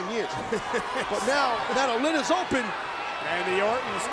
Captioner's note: laugh